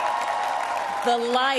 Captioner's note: cheering